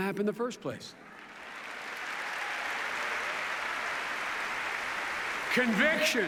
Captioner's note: applause